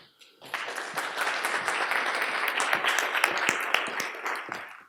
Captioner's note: audience applauding